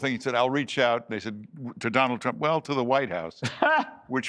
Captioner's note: laughter